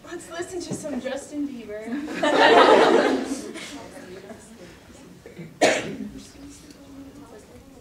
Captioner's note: audience laughter